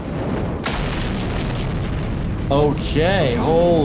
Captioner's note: spaceship engine starting